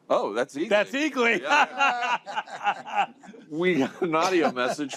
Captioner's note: laughter